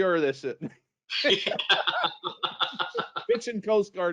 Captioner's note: both laugh